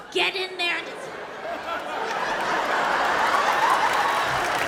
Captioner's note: audience laughs